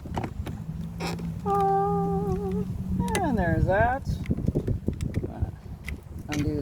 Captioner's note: happy noises!